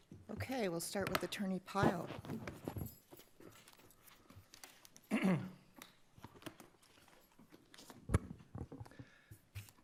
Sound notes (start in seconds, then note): 5.0 clears throat